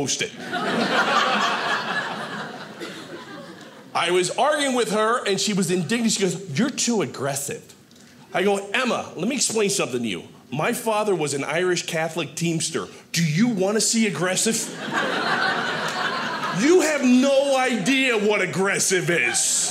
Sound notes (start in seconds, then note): 0.4 audience laughing; 14.6 audience laughing